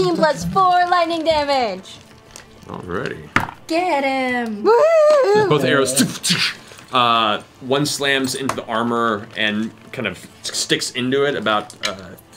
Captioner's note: impact